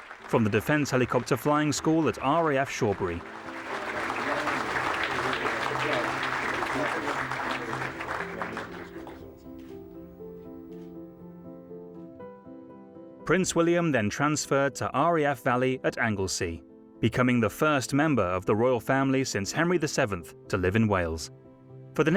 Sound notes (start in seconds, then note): 4.1 Charles and William speaking softly; 5.3 audience applauding; 9.5 calm music